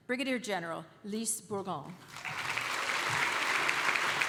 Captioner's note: applause